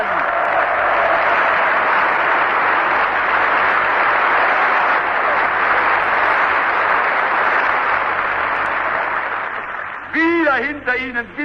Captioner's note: applause